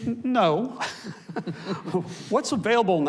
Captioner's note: panelists chuckles